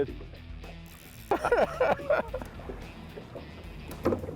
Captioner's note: laughing